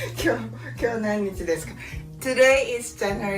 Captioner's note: laughing; speaking Japanese